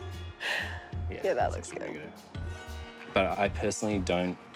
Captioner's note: chuckles